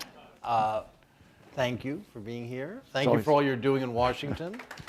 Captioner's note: applause